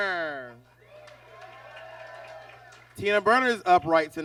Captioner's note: audience cheers